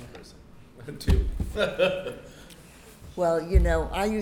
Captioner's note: laughs